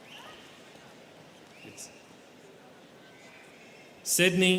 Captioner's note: students cheering; students chattering